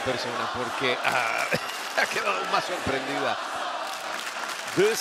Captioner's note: laugh